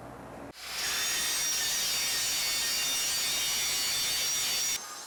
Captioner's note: angle grinder starts